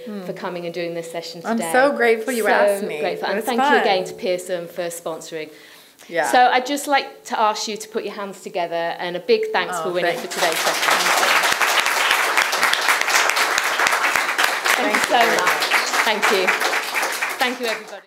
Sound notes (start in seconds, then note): 13.3 applause